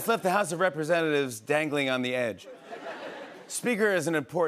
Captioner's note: laughter